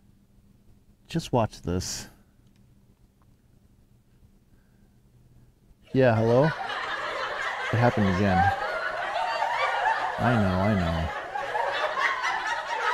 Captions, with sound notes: Just watch this Yea hello? [laughter] [laughter] It happened again [laughter] [laughter] I know I know... [laughter]